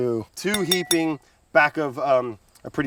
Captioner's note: glass dings